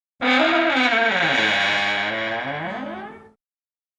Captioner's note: lid creaking